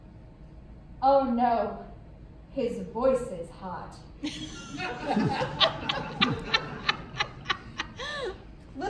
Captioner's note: laughter